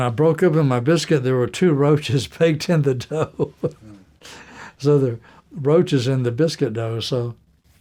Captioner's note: laughter